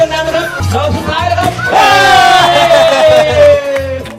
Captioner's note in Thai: เสียงเฮ